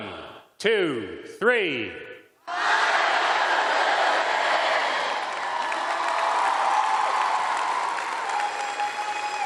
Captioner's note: cheers and applause